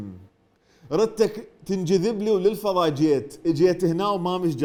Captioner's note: poetically